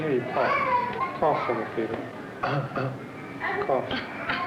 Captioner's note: coughs; coughs lightly